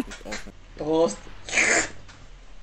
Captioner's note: slurrrppp